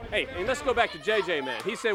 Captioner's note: crowd chatter